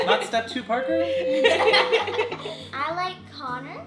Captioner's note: laughing